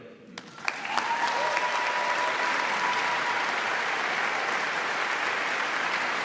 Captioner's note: audience claps